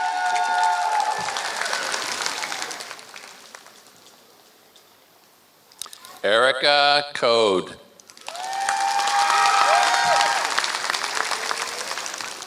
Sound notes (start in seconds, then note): 0.0 applause; 3.2 applause; 8.0 applause